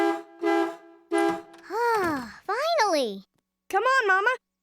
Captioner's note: honking